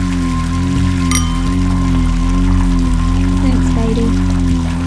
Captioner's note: glass clinks